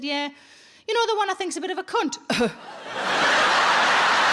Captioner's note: audience laughing; coughs